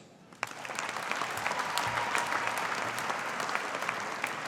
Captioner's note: audience applauding